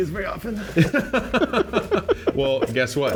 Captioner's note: both laugh